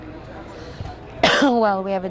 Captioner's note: coughing